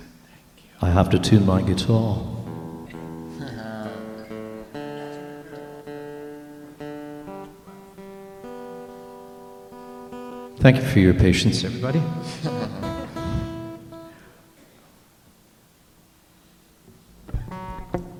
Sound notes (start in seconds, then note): 2.5 chuckling; 3.2 laughter; 11.9 laughter